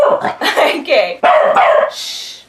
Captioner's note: Max barks; bark bark